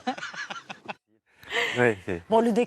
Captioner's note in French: rires